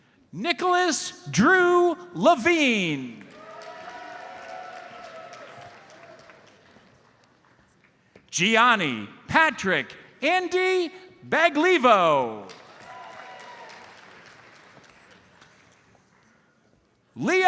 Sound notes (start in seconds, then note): 3.2 audience cheers and applauds; 12.4 audience cheers and applauds